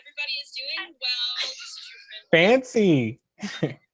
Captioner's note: chuckles; laughs